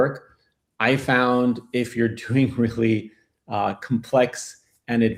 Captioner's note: laughs